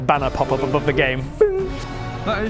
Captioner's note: bing!